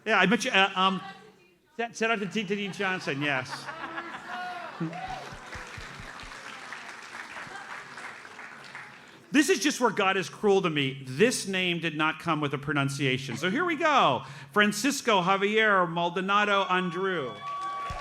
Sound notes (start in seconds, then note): 3.7 audience laughs; 17.2 audience cheers and applauds